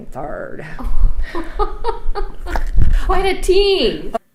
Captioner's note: laughs